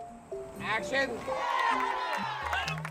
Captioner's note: crowd shouting and applauding